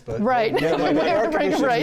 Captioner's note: laughing